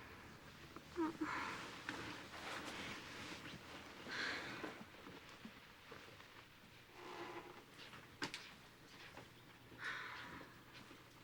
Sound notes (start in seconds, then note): 1.0 joyce whimpers; 4.0 sighs